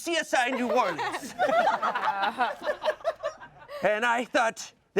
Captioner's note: everyone laughs